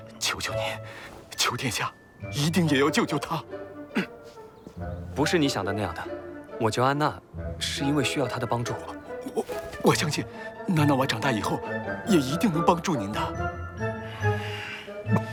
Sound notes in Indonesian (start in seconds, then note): 3.8 batuk